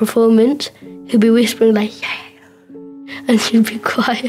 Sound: whispers

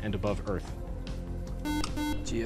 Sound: buzzer

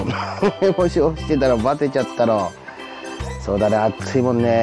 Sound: laughs

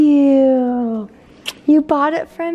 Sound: kissing sound

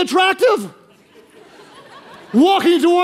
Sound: congregation laughing

